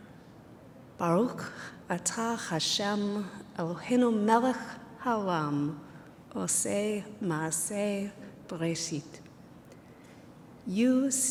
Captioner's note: speaking hebrew